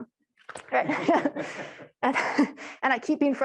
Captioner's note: and the audience laughing